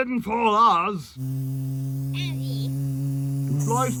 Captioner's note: fly buzzing